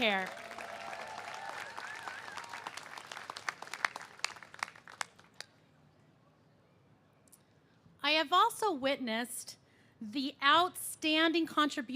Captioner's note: cheers and applause